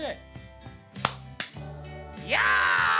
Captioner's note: claps hands